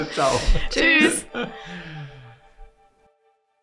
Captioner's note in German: Lachen